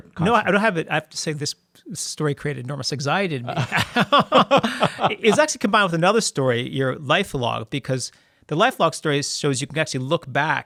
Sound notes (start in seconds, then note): 3.5 both laugh